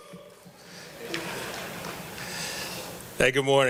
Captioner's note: laughter